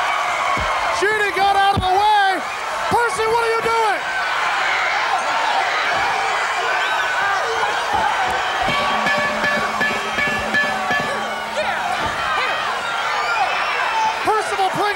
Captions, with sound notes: Percy, what are you doing? (bell ringing) Percival Pringle III holding Toni while Jeannie.